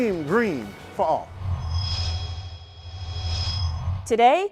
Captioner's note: sound Effects